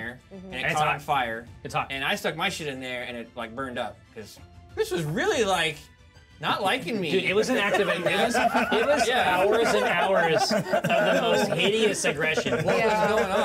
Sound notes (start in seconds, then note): 7.2 speaker laughs